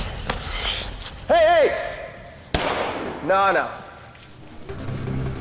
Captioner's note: gun firing; suspenseful music